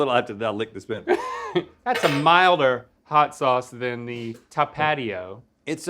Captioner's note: Link laughs